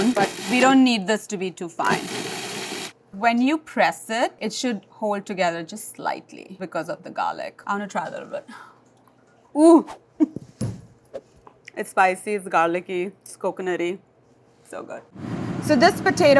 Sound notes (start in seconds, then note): 1.8 food processor whirs; 10.6 fist thuds